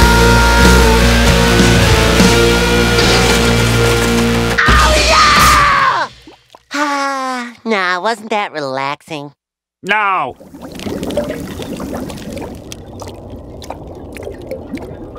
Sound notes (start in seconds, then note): 12.6 dripping